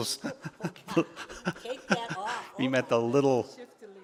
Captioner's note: laughing